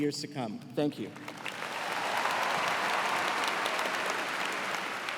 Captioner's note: cheers and applause